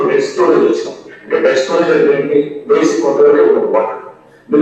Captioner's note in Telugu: గొంతు సవరించుకోవడం